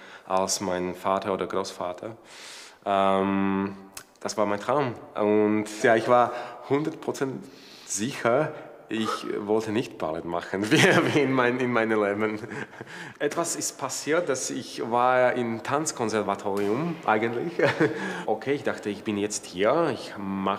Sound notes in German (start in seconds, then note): 17.4 Er lacht